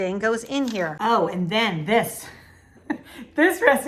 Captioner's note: laughs